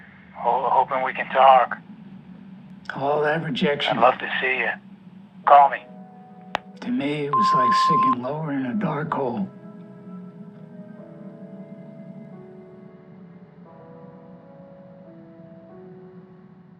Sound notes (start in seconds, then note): 6.4 answering machine clicks